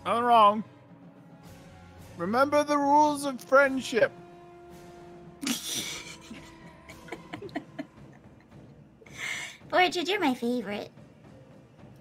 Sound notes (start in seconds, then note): 5.4 players laughing